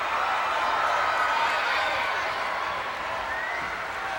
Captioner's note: crowd cheering